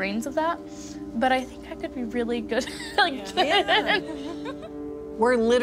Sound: laughs

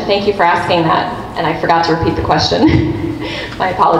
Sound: chuckles

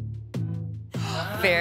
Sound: gasps

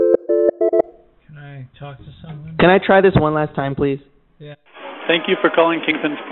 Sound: phone ringing

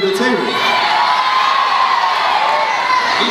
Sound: crowd cheers

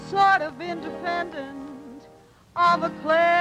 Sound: none

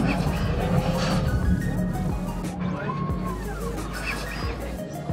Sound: transformer whirring

